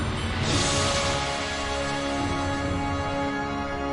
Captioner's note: gunshot